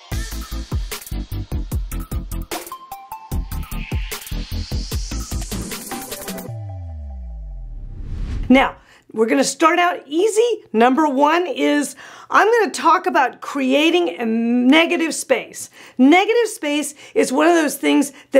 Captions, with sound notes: (upbeat music) (electronic whooshing) Now, we're gonna start out easy. Number one is, I'm gonna talk about creating a negative space. Negative space is one of those things